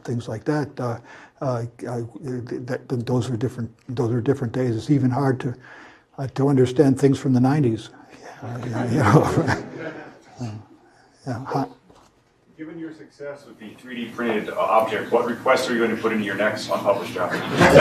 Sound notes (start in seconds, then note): 8.2 laugh